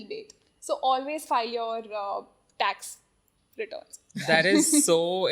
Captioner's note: laughs